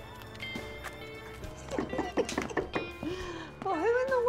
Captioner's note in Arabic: طرق اليد